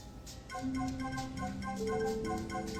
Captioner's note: phone rings